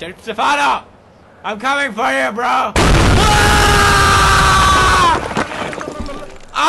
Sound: screams

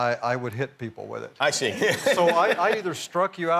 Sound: laughing

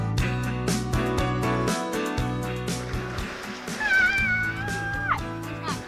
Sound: splashing

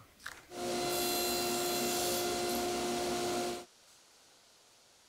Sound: table saw whirring

